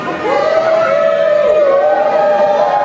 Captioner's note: cheering